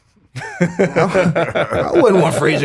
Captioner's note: everyone laughs